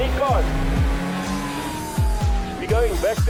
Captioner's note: police sirens